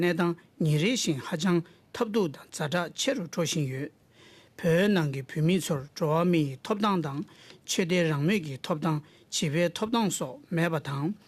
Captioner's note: speaking Alternate Language